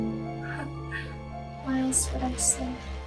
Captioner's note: Hannah chuckles